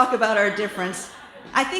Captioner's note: laughter